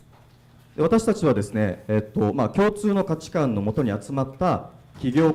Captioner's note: speaking foreign language